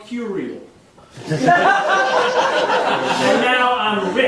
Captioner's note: audience laughing